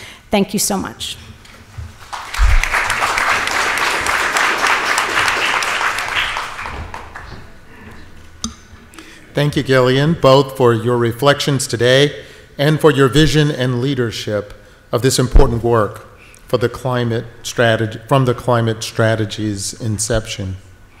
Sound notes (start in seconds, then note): 2.0 audience applauds